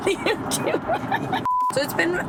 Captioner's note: laughing